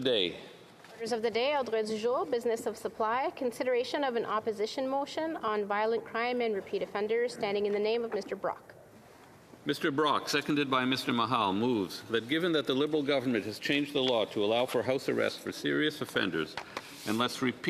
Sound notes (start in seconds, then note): 5.4 speaking French